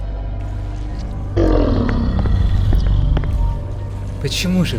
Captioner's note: growling